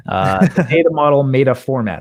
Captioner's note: laughing